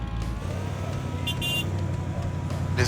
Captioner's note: horn honks